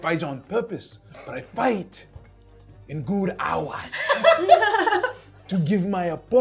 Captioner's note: laughing